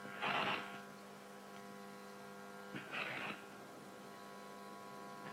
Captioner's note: static buzzing continues